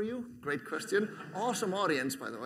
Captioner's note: laughter